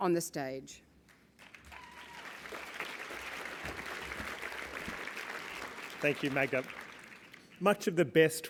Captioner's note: applause